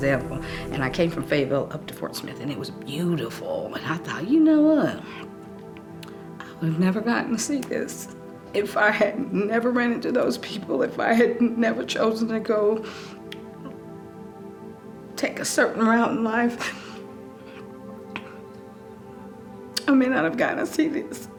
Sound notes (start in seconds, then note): 16.6 sobs